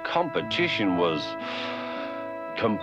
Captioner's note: sighs